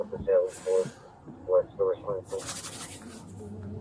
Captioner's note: radio chatter